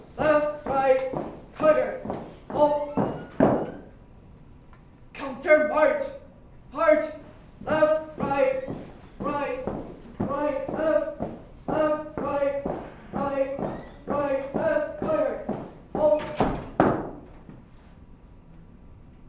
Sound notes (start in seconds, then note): none